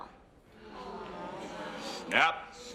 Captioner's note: croud gasps